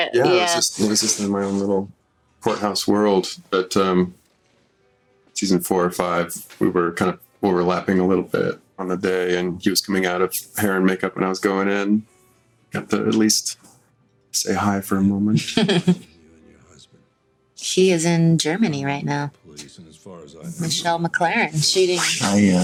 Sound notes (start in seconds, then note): 15.2 chuckles